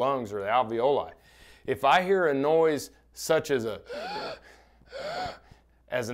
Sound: makes an inhaling voice

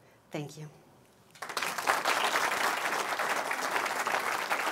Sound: applause

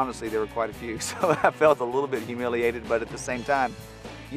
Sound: chuckling

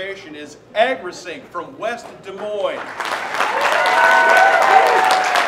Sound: applause

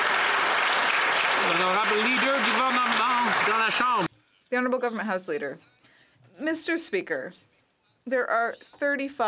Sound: some Applause

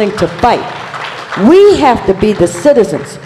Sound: applause

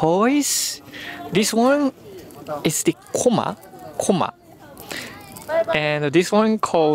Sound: spinning top

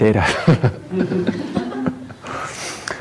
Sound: laughter

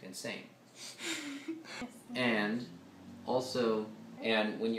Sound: woman laughs

